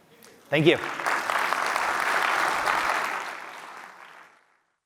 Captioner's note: applause